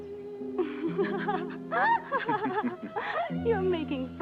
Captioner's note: Pilar laughs